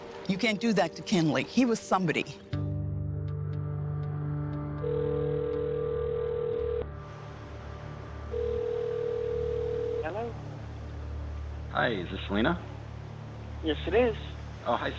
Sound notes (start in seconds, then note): 3.3 phone ringing; 3.3 soft somber music